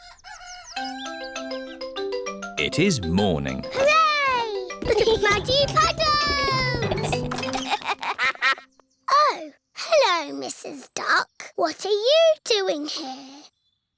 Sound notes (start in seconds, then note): 0.0 cockerel crows; 6.4 giggling; 7.6 quacks